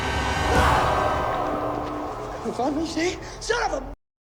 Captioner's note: sinister music; Simon screams